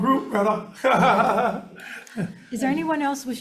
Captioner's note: group laughing